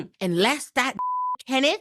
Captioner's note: beep